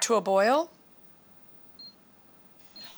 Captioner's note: beeping